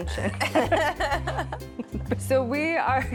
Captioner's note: laughter